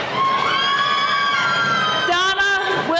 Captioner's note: cheering